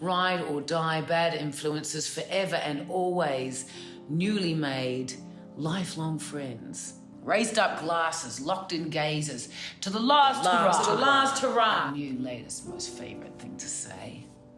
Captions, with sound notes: ride-or-die bad influencers, forever and always, newly-made, life-long friends. Raised up glasses, locked in gazes, “To the last hurrah!” (ECHOES) our new, latest, most favourite thing to say.